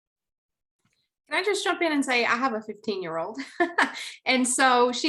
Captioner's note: laughs